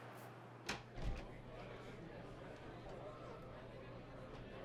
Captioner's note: people chattering